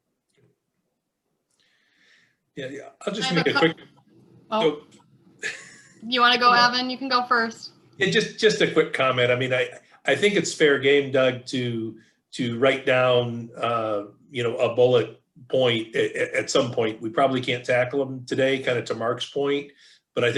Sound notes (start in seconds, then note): 3.2 mumbling